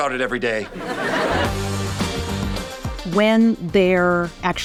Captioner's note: audience laughing